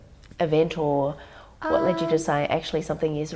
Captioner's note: laughing